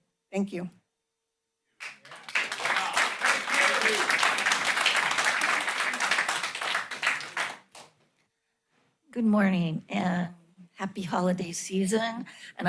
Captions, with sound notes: Thank you. [applause] - Good morning and happy holiday season.